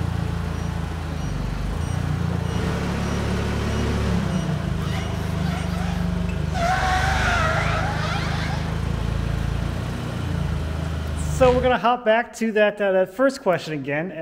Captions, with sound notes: (forklift beeping) (wheels squeaking) So we're gonna hop back to that first question again